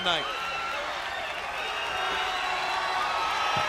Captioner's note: crowd chatter; crowd cheering